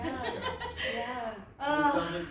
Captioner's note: laughs